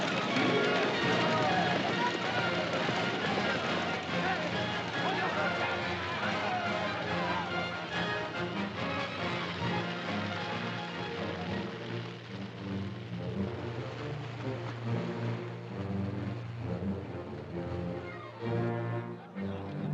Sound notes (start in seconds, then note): 0.0 cart rattling; 0.0 dramatic music; 1.8 shouting & commotion; 8.3 dramatic music; 8.3 fire crackling; 11.8 water splashing; 17.9 heated chatter; 18.7 dramatic music